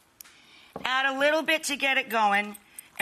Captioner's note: mug thudding